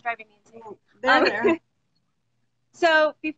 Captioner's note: laughs